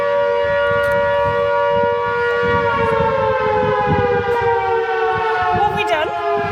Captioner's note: sound of a siren